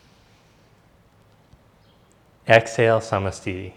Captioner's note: inhales deeply